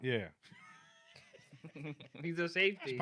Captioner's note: laughing